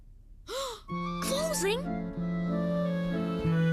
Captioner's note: gasp